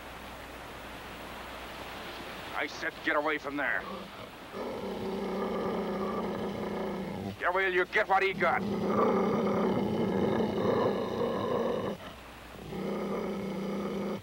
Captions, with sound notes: I said get away from there. (Shep growling) Yeah, well you get what he got.